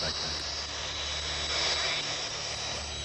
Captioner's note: distorted voice